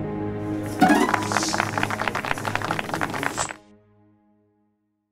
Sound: applause

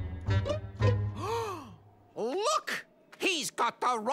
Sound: gasp

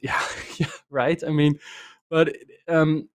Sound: laughs

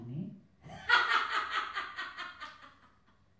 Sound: loud laughter, sharp pause

